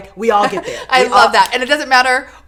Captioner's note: chuckles